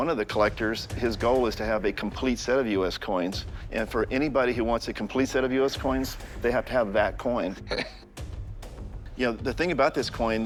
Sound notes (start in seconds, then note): 7.4 laughs